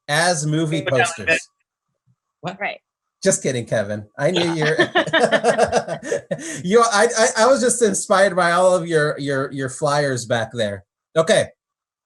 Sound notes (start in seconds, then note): 4.0 laughs